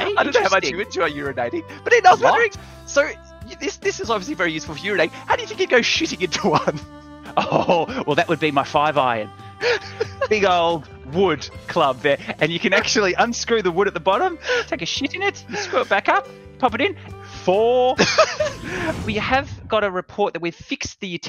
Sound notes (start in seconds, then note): 17.9 laughs